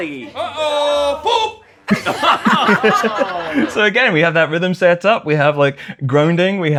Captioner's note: laughter